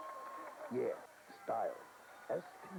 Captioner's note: crowd cheering